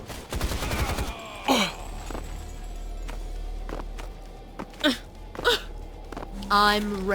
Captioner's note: weird jumping noises